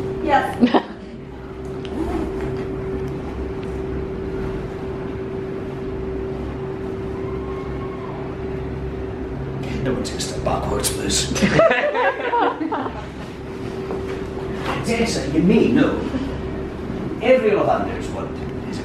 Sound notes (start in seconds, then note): 11.3 crowd laughing